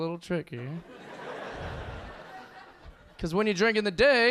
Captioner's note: audience laughing